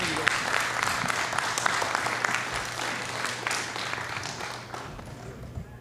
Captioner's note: applause